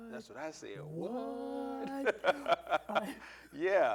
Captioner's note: laughing